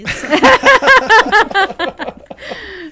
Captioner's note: laughing